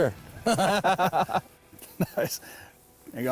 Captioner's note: both chuckle